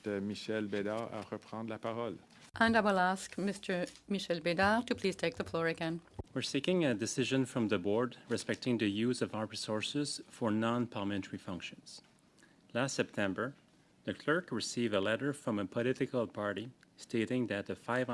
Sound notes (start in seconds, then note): 4.4 speaking in French